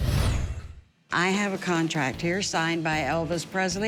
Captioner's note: none